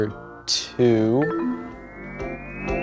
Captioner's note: low tone chimes; cool music